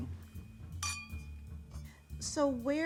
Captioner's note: glasses clinking